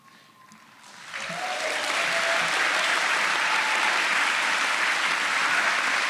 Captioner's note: audience cheering and applauding